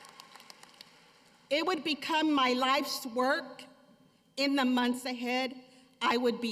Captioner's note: cheers and applause